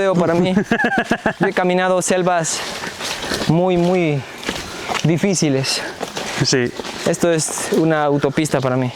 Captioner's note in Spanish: risas